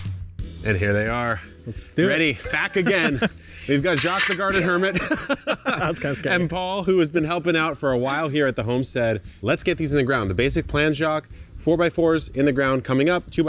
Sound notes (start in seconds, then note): 2.0 laughs; 4.4 both laughing